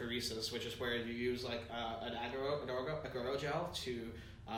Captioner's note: stutters